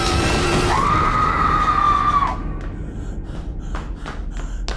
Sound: Red Sister screams; Sarah screams

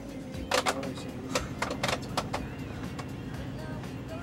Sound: Stephen muttering; upbeat music

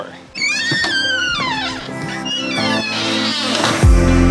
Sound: door squeaks; gentle upbeat music

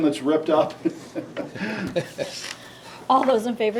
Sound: members laughing

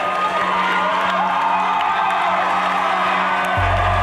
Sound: cheering

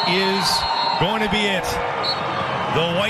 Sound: whistle

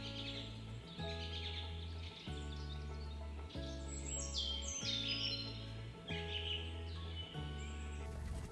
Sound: birds sing quietly

